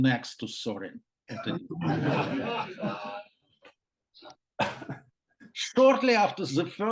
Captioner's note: laughter